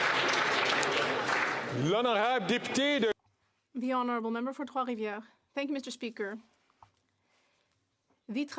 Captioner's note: applause